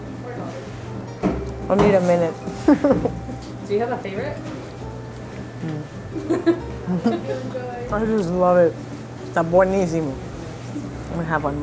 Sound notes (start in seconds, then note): 6.2 producer laughing